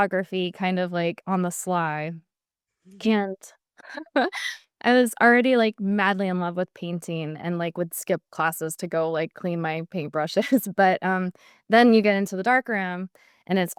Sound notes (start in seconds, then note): 4.0 laugh